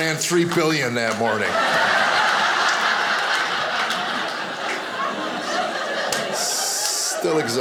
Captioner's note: audience laughing